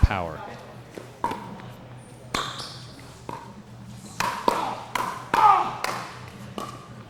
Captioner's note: ball being hit; shoes squeaking